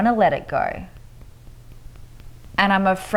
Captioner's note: fingers tapping lightly